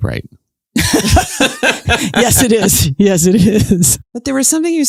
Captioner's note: laughs